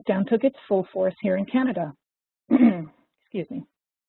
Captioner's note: coughs